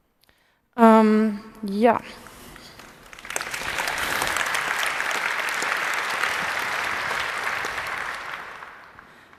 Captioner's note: applause